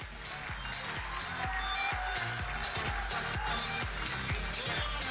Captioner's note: audience cheering and applauding